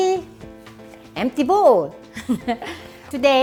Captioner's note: laughs